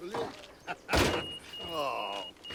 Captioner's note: beeper beeps